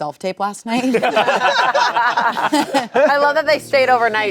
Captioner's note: everyone laughing